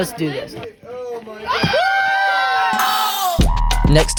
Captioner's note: group screaming